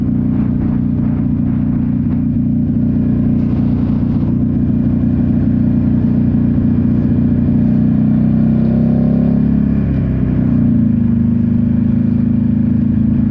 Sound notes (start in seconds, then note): 5.2 tires screeching